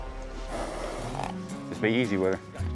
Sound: horse blusters

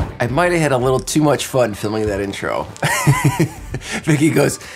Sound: laughing

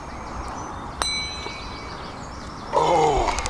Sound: bell dings

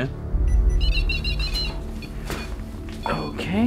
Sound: beeping

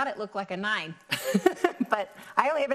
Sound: chuckling

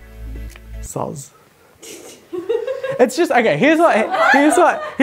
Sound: laughing

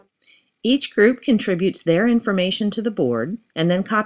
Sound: voiceover

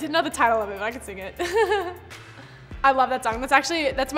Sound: chuckling

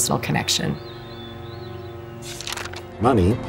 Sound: birds chirp; camera shutter clicks

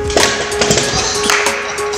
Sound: clap

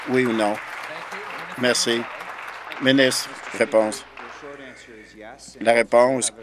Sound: applause

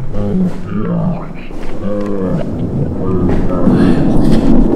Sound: demonic mumbling

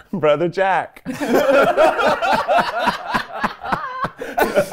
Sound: laughing

